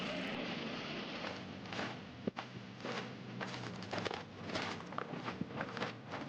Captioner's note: tense music; soldiers marching